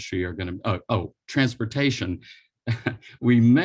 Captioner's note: chuckles